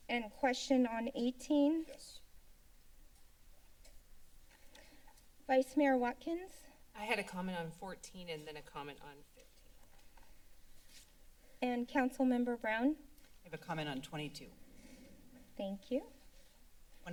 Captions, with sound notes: and question on 18? -Yes. [silence] - Vice-Mayor Watkins. - I had a comment on 14 and then a comment on ... [silence] - And Councilmember Brown? - I have a comment on 22. - Thank you.